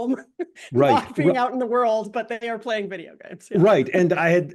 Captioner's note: laugh